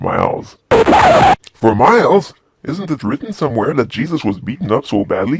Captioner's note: record scratch